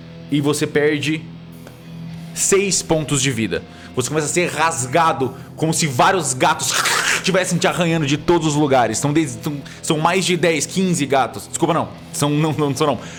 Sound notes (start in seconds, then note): 6.7 scratch